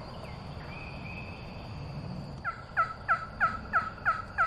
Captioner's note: turkey calling